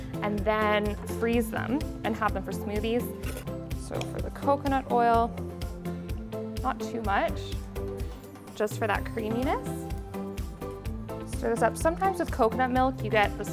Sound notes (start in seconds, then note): none